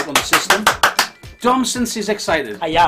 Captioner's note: clapping